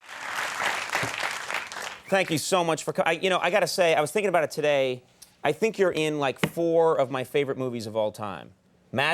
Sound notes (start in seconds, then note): 0.0 audience clapping